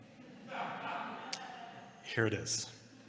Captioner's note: laughter